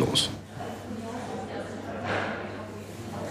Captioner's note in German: Stimmengewirr im Hintergrund